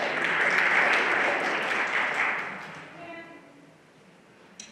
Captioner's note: everyone applauding